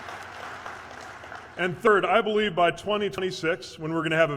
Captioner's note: applause